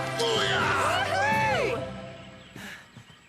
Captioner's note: Gophers Cheering